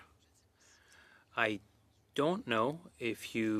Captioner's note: speaking French